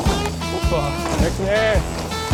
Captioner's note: laughs; upbeat music